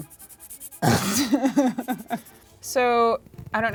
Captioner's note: couple laughs